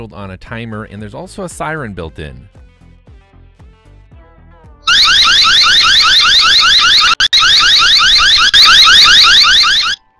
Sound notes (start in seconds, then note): 4.8 siren blaring